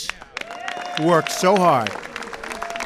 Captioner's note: applause